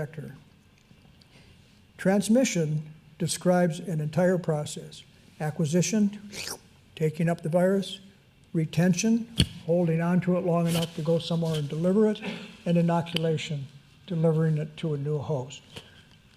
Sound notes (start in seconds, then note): 6.3 slurp